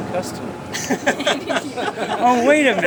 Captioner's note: laughing